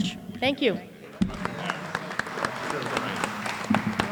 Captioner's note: applause